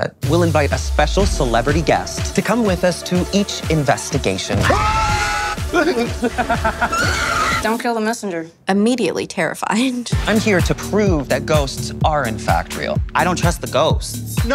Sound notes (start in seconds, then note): 4.6 screaming